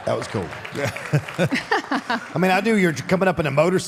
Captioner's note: audience applauding; Mark and Michelle laughs